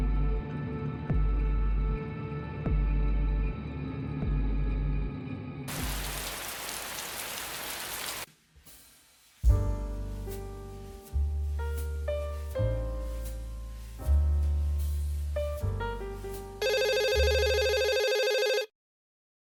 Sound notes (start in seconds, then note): 5.6 rain; 16.6 phone call